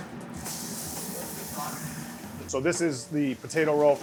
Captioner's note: meat sizzles